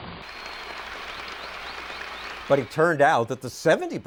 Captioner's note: applause